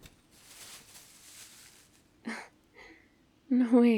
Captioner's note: bag opening